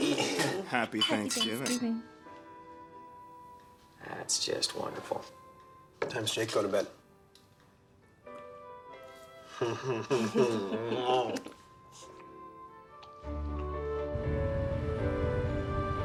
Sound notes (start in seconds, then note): 7.5 chuckling; 12.8 lighthearted music